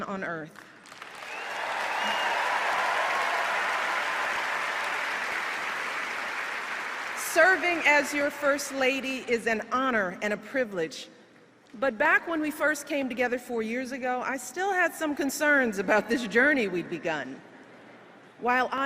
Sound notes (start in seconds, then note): 4.0 applause